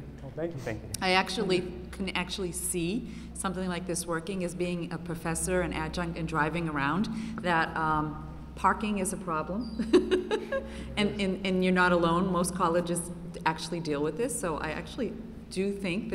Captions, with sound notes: >> Well thank you, thank you. >> I can actually see something like this working as being a Professor and Adjunct and driving around that parking is a problem [laughter] and you're not alone, most colleges actually deal with this so I actually do think